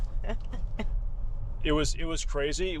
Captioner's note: laughing